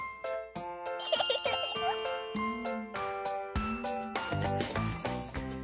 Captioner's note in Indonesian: Penuh tawa